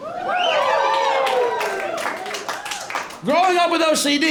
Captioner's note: cheers and applause